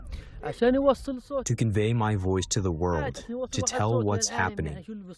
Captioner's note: through translator